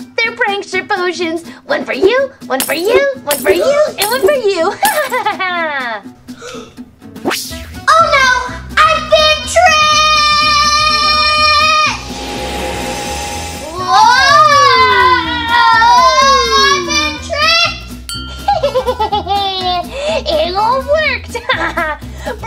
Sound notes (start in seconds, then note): 4.7 laughs triumphantly; 6.3 gasps; 18.0 bell dings; 18.4 laughs evilly